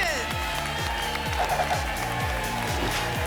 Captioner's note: applause and cheering